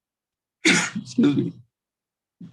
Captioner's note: coughs